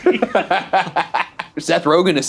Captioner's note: laughing